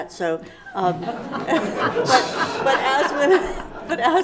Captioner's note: laughing